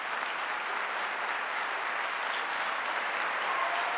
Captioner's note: applause